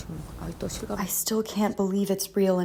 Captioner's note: through translator